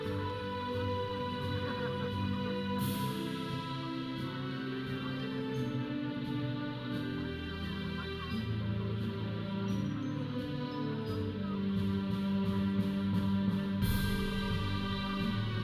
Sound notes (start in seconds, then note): 0.0 audience cheering; 0.2 processional music; 8.4 audience chattering; 8.4 processional music